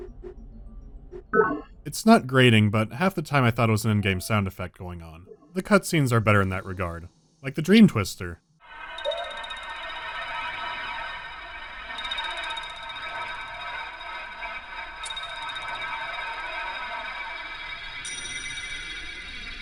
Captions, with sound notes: [*broop*] It’s not grating, but half the time I thought it was an in-game sound effect going on. The cutscenes are better in that regard. Like the “Dream Twister”.